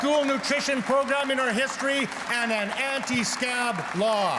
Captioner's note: cheers and Applause